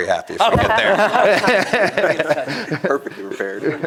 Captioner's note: laughter